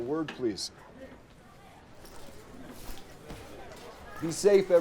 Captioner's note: students chattering